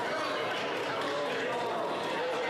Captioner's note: crowd Noise